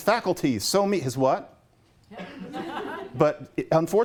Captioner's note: laughter